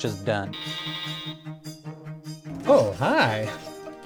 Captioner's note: beeping